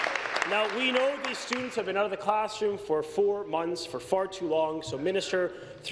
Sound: applause

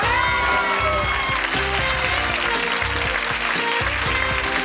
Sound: cheering and applause

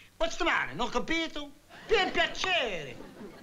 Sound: speaking italian

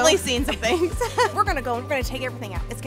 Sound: laughing

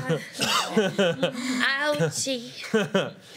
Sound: laughter

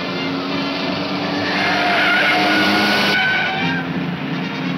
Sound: tires squealing

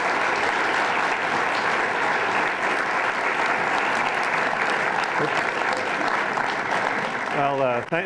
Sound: applause

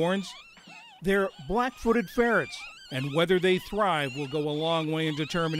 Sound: kits squeaking

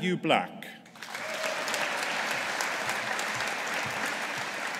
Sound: audience applauding

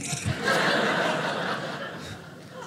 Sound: audience laughing

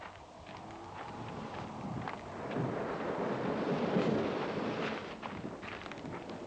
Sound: wind howling; thunder rumbling

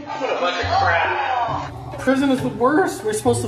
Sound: groans

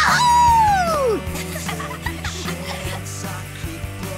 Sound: laughing

